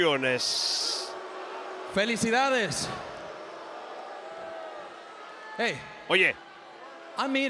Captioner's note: applause